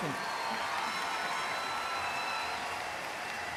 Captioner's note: applause